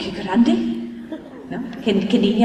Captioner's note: laughter